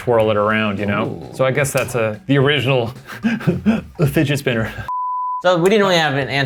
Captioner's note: laughs